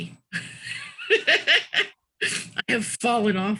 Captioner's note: laughing